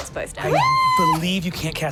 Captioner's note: yells